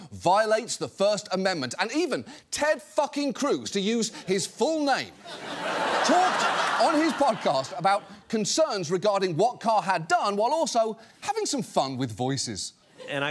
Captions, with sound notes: And even Ted fucking Cruz, to use his full name... -(LAUGHTER) -...talked on his podcast about concerns regarding what Carr had done while also having some fun with voices.